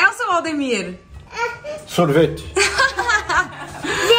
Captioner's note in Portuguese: risos